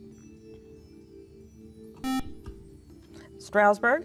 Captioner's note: beeping